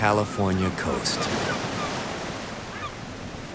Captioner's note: gulls squawking